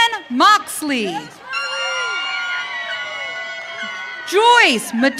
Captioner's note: audience cheering